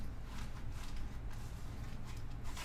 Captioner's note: none